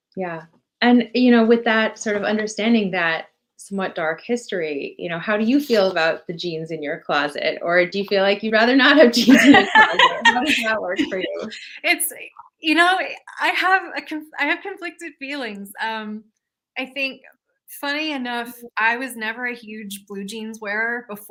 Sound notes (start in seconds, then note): 9.1 laughing